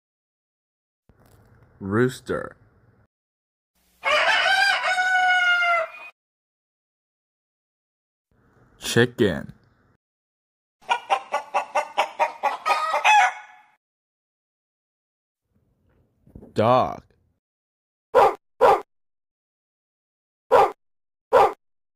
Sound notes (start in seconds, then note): 4.0 rooster crowing; 10.8 chicken clucks; 17.8 dog barking